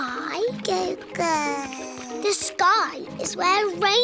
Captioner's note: babbles